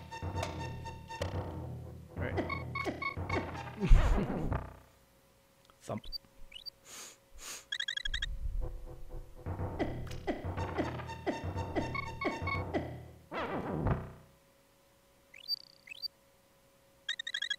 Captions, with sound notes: Alright (chuckling) Thump